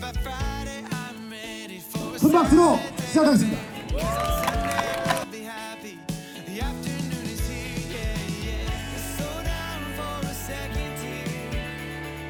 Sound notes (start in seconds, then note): 3.6 confident